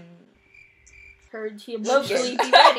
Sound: crickets

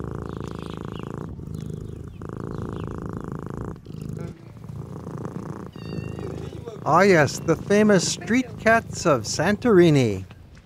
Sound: cat purrs

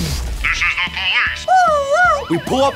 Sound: imitates sirens

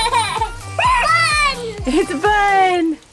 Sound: laughs

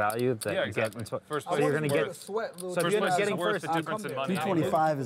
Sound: table chatter

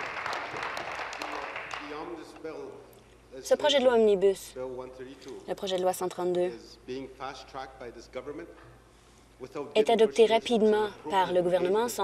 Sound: applause

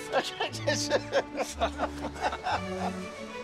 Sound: laughing

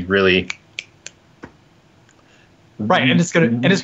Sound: snaps fingers

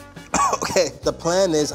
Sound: coughs

